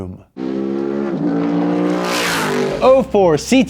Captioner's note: engine revs